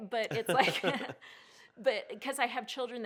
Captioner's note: both laugh